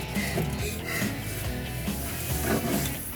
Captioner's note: upbeat music; panting out of breath; upbeat music